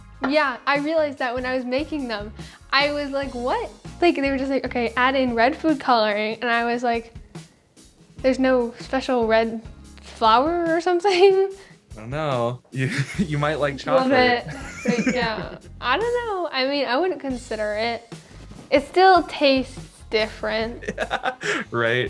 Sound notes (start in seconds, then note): 14.0 laughs